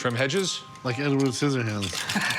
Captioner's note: laughs